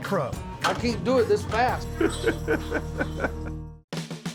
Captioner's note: laughing